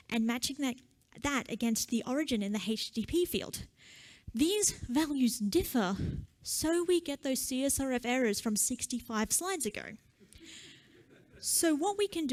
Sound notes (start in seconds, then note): 10.8 laughter